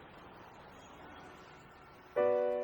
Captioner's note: horns honking; gentle music